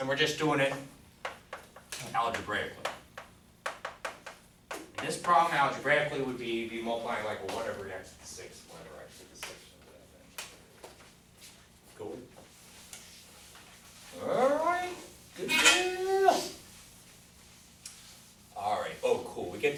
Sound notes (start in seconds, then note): 15.7 grunts